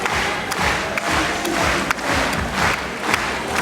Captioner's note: cheering&applause continues